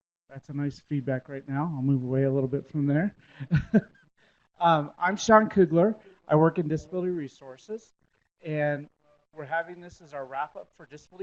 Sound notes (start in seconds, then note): 3.4 chuckles